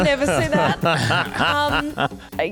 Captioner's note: laugh